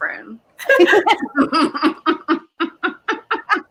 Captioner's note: all laugh